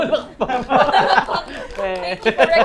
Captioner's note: laughs